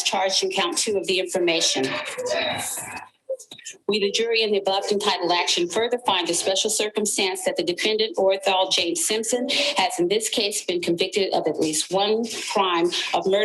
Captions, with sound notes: as charged in count two of the information. (people sobbing) We, the jury, in the above entitled action further find the special circumstance that the defendant, Orenthal James Simpson, has, in this case, been convicted of at least one crime